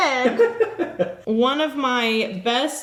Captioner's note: laughs